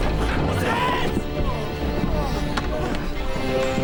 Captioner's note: moans in pain